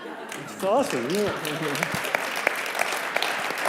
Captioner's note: clapping